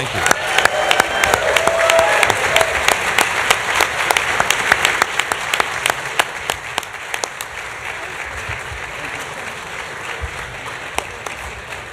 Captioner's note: applause